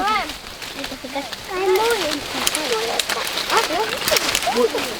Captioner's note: birds